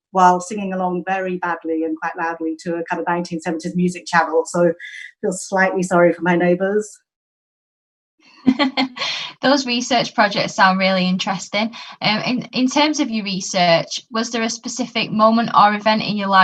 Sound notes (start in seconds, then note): 8.4 laughs